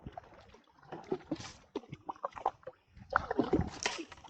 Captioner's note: paddling